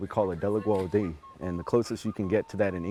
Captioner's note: speaking cherokee